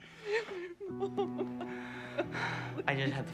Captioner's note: Leona crying